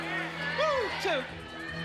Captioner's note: audience yelling suggestions